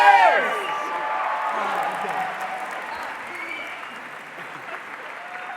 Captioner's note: audience applause